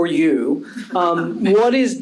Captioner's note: panel chuckling